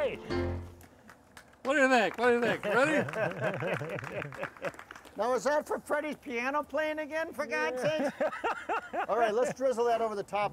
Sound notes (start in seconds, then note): 0.7 audience applauding; 2.4 men laughing; 7.6 laughing